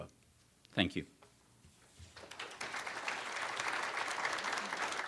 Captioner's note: audience applauds